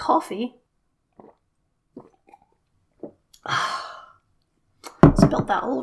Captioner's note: glug glug